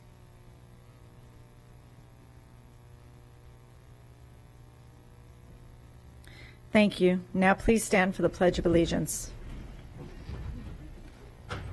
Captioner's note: moment of silence